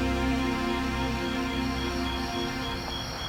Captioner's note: crickets chirping